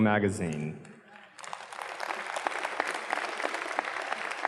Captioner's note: audience claps